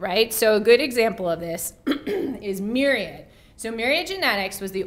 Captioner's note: cough